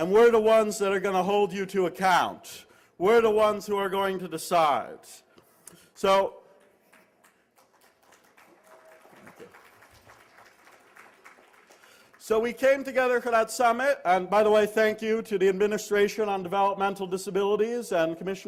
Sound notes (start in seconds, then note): 6.5 applause